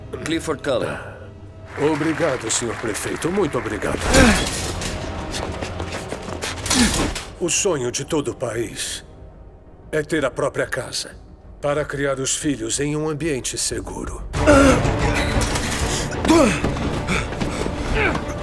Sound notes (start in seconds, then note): 1.6 applause; 4.0 grunting; 14.4 grunting